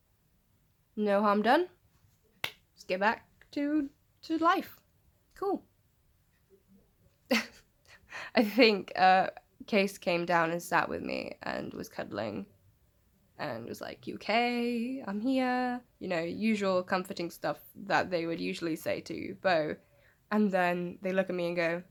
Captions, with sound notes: 'No harm done, let's get back to- to life. cool' *chuckles* I think Case came down and sat with me and was cuddling and was like 'you okay?' 'I'm here' You know usual comforting stuff that they would usually say to Bo and then they look at me and go